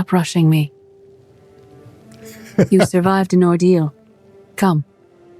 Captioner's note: laughs